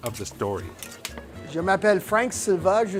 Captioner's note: speaking french